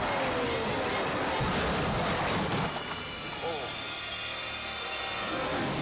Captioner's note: snowmobile crashing